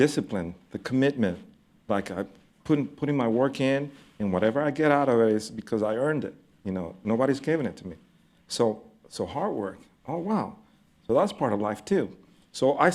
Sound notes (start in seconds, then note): none